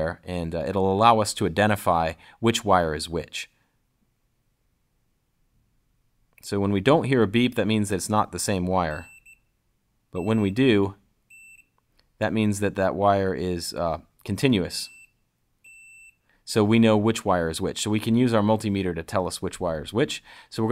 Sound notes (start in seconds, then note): 10.1 beeping